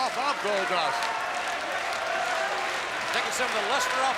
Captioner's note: crowd yelling